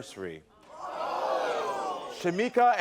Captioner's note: audience gasps